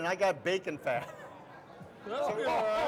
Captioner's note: hosts laugh and chatter